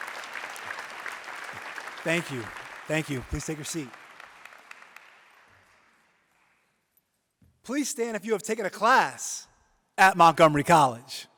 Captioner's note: applause